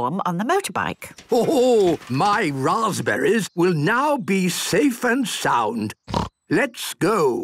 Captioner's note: snort